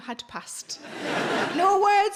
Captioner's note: audience laughing